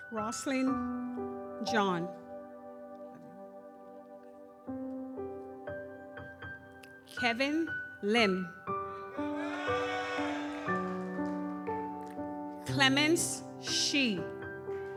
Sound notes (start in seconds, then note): 3.1 gentle music continues; 9.2 audience cheers; 9.2 gentle music continues